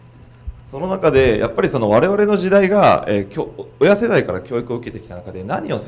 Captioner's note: speaking foreign language